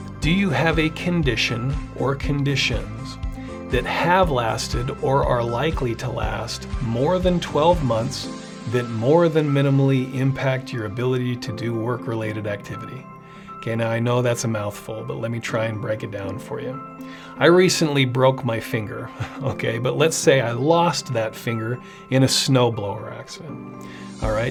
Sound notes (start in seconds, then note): 19.1 chuckles